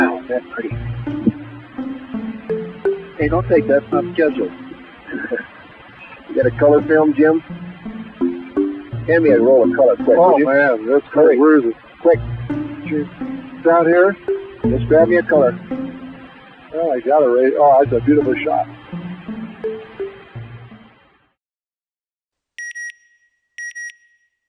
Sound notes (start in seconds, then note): 5.1 chuckle; 5.1 laughter